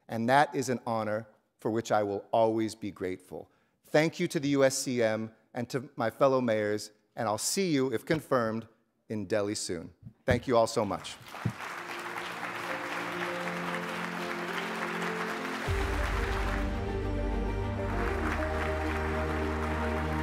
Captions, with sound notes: And that is an honor for which I will always be grateful. Thank you to the USCM and to my fellow mayors. And I'll see you if confirmed in Delhi soon. Thank you all so much. (audience applauding) (instrumental music)